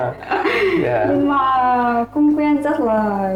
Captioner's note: laughing